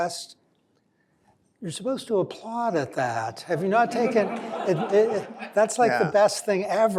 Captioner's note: laughter